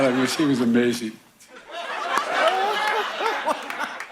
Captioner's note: laughter